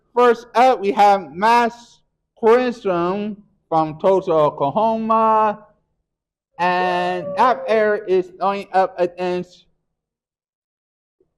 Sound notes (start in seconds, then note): 7.0 cheers